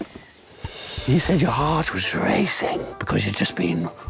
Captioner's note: breathy voice